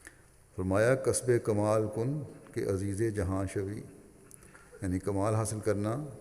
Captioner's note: in Persian